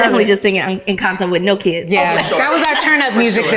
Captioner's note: laughs